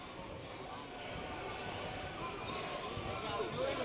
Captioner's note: spectators chattering; sneakers squeaking